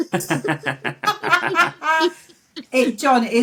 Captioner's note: laughter